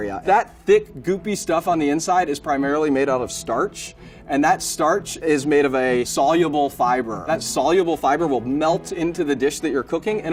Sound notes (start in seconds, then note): none